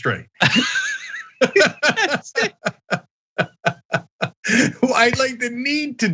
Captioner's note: laugh